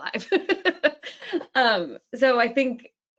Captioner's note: laughing